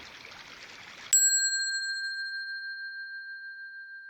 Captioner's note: bell ringing